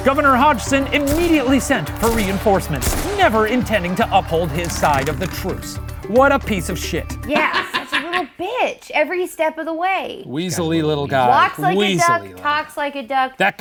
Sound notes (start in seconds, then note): 7.2 laughing